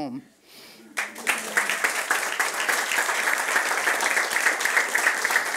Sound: friends applauding

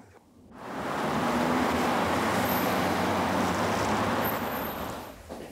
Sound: cars passing

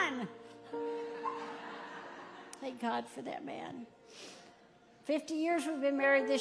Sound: audience laughing

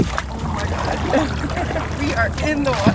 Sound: laugh

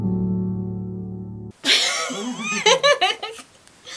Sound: calming folk music plays; giggles

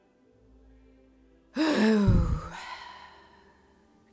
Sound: Lindsay sighs

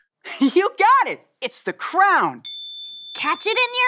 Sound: bell dings

